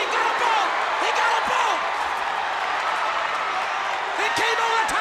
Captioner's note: audience cheers